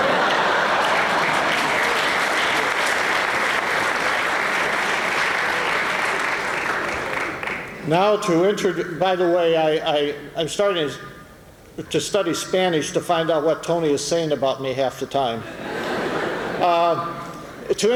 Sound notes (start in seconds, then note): 0.0 laughter; 2.1 applause